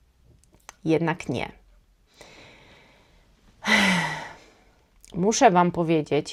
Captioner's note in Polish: westchnienie